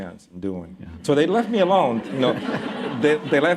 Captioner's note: laughter